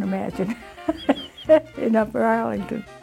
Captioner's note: laughter